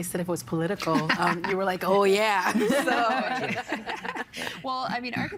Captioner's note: laughing